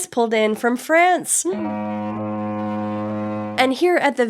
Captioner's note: foghorn